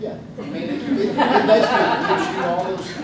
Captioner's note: group laughs